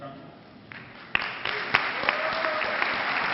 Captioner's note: clapping